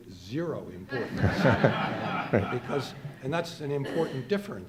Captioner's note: audience laughing